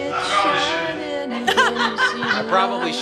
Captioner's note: laughing